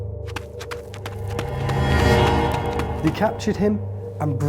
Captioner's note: dramatic crescendo; footsteps